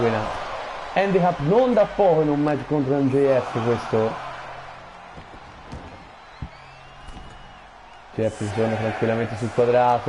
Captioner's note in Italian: Applauso